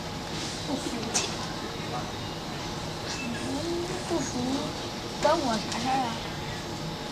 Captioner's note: speaking in Mandarin